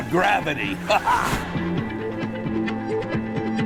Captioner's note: laughs